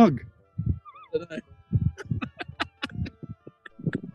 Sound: laughing

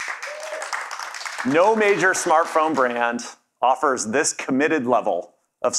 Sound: cheers and Applause

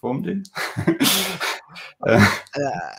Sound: laughing

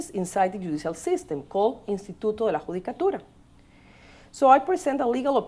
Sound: speaking spanish

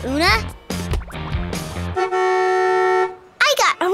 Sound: horn blowing

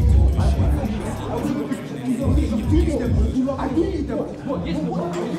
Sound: shouting

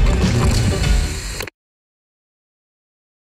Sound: tape cutting

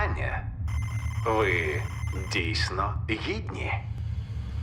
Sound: electronic crackling; ominous music plays

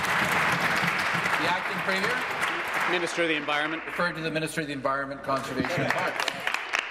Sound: applause

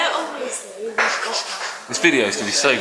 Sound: nervous nose breathing

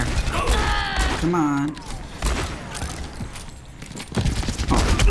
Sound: firing

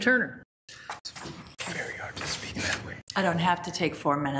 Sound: whispering

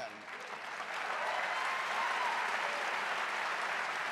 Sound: audience applauding

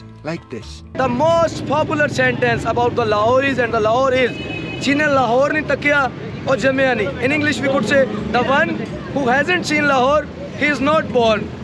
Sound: speaking foreign language

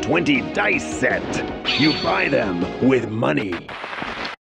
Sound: sword clangs

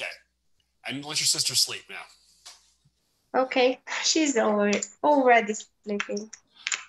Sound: laughs

